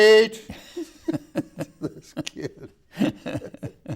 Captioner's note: laughing